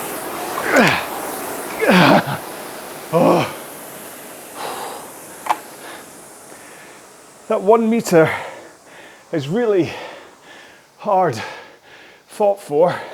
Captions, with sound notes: (exhales) That one meter is really hard thought for,